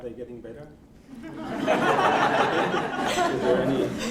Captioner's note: laughter